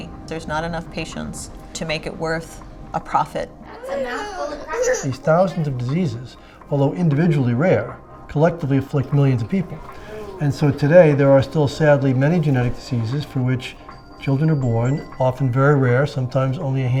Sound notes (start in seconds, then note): 3.7 child whimpers